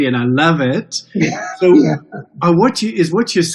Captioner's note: chuckles